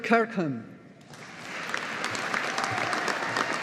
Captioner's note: audience applauding